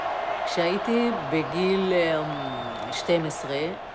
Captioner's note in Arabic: الصوت المنطوق باللغة العبرية